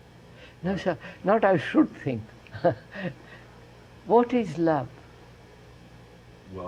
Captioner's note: laughs